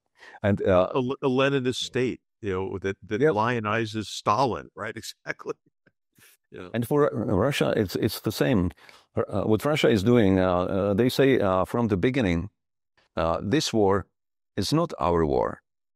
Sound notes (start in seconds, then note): 6.2 laugh